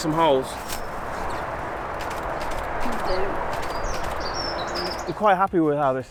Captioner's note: camera shutter clicking